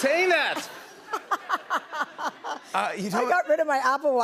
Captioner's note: laughter